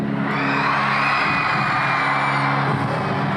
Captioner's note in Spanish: Gritos